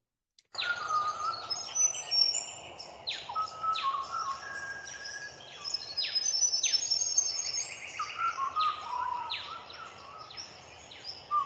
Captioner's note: birdsong